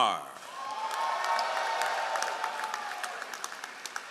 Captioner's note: all applauding